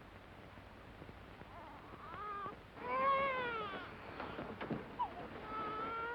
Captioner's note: baby crying